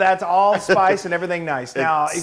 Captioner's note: laugh